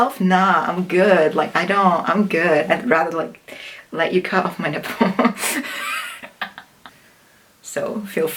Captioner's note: laughs